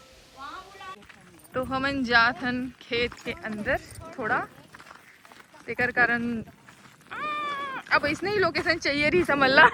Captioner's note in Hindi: चीखने की आवाज़